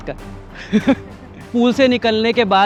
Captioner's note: laughs